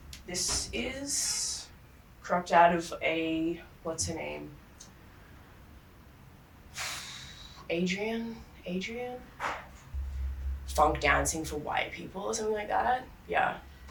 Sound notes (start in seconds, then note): 6.9 sighs